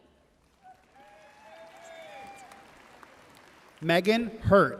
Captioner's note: audience cheering and applauding